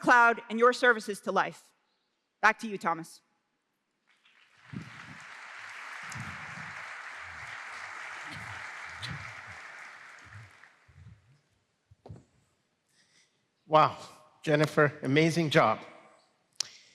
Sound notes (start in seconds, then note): 4.1 applause